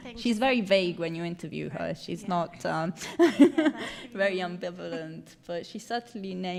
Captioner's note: laughs